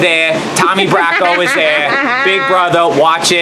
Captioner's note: Leslie laughs